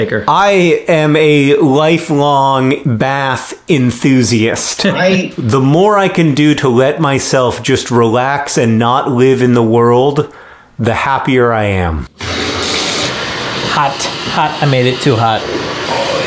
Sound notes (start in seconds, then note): 12.1 bath water running